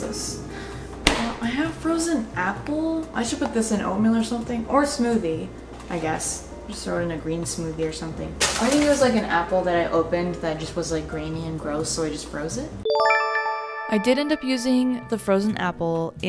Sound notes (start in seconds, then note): 12.9 chime